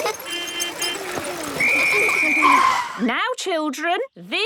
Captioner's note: whistle blowing